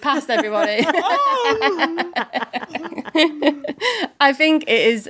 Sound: all laughing

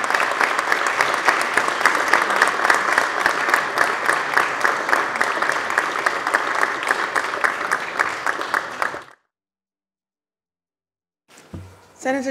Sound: applause

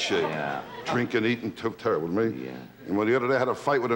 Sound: mutters

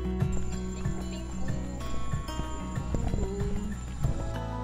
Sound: humming excitedly

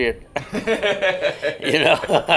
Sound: laughing

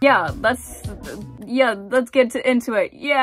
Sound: stammering

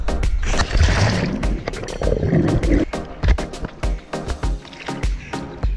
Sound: muffled underwater noises

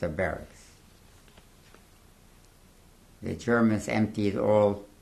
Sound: pauses for 3 seconds

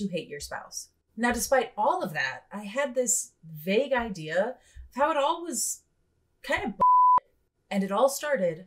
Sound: beep beep

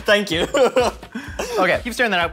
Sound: laughing

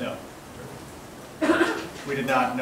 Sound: coughs

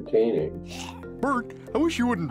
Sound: Bert retching

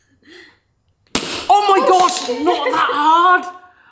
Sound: spoon cracks jar

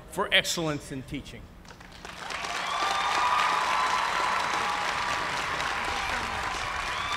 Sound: cheers and applause

